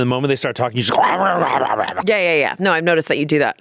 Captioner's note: barking